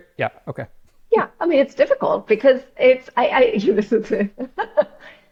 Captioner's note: laughs